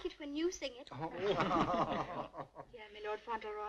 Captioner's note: laughing